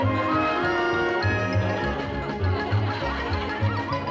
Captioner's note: laughter